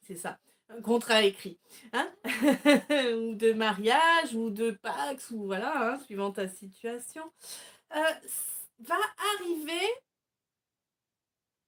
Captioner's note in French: rires